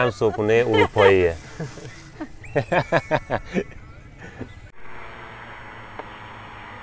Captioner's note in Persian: خنده